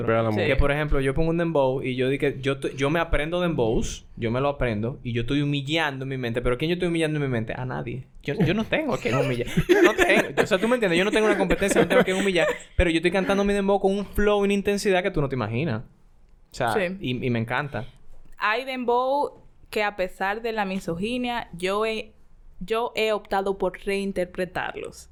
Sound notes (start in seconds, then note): 8.4 laughs